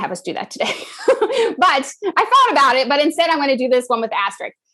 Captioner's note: laugh